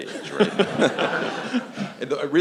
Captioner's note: laughter